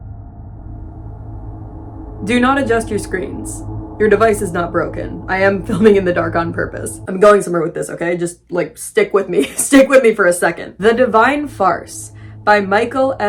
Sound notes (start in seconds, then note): 9.4 laughing